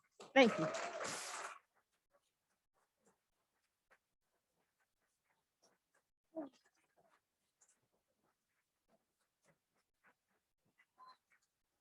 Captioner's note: applause